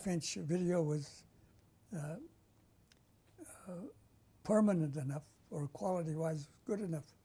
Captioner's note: pauses for 3 seconds